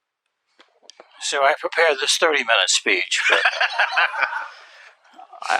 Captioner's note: laughter